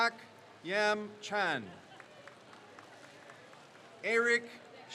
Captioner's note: crowd cheers